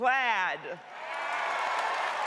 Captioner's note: cheering; applause